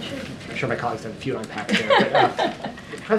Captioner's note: laughs